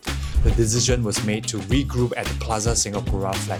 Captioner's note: none